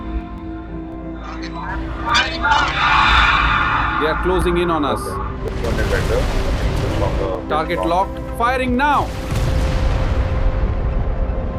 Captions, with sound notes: They are closing in on us. [radio screeching] They Okay. Let's go and check the things on the- Target locked. Firing now.